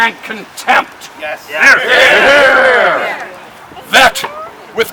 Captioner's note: crowd